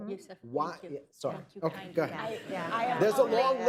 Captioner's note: laughter